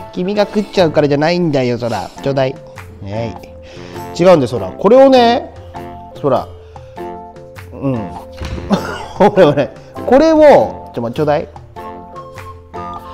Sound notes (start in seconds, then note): 8.6 laughs